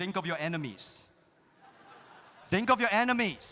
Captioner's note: audience laughs